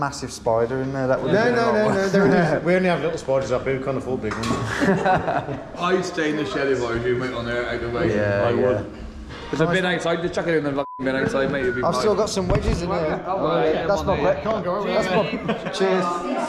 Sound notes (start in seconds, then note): 4.4 group laughing; 10.8 beep